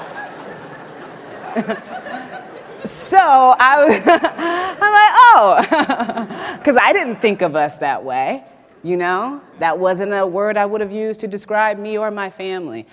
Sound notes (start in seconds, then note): 2.7 laughs